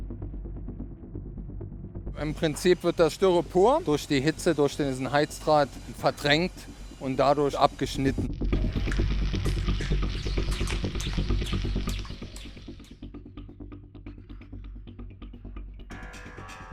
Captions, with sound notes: (German) In principle, the Styrofoam is displaced by the heat through this heating wire and thereby cut off.